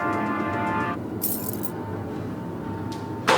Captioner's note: keys Jingle